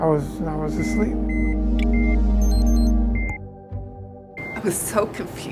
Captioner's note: monitors beep